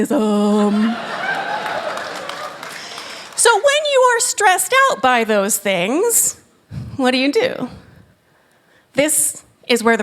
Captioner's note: laughter